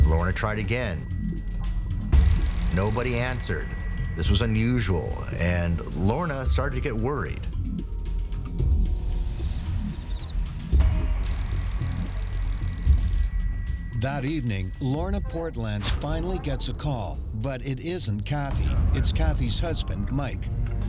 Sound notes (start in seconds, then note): 11.3 phone rings